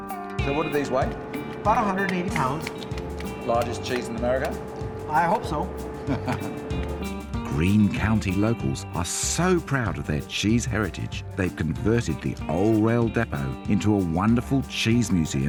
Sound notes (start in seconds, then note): 6.0 chuckles